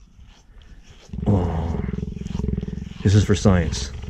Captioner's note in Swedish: stön